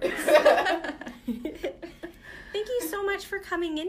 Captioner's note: laughter